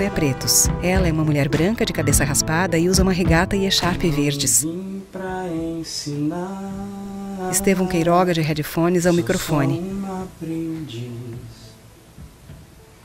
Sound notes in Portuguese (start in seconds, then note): 3.9 cantarola